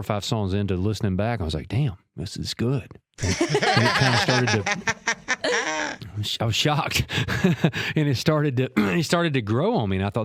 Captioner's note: laughs